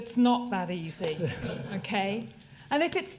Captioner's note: laughter